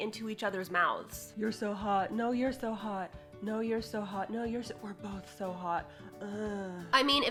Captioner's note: breathy groan